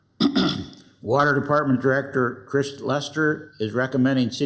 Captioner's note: clears throat